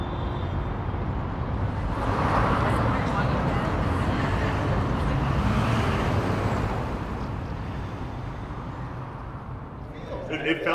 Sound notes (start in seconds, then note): 0.2 distant city traffic; 2.7 pedestrians talking; 5.7 city bus revving